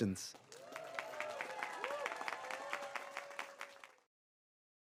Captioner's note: audience applauds